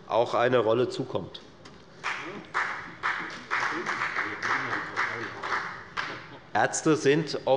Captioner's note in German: Beifall bei der FDP